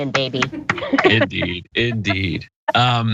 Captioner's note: laugh